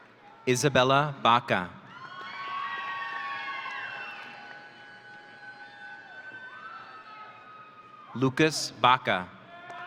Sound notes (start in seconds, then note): 1.9 audience cheering